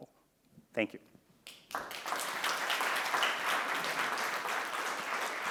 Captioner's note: applause